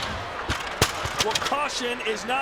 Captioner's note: ladder clatters